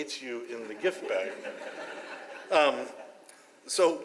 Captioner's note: audience laughs